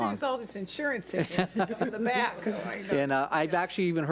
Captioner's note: laughs